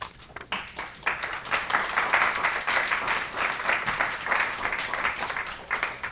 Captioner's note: applause